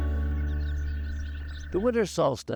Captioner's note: birds singing